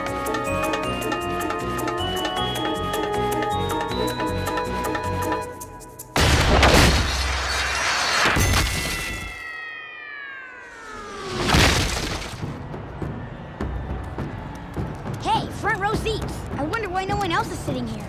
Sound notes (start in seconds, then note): 6.2 thudding; 7.9 dinging; 11.4 thudding